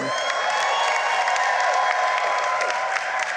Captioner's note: applause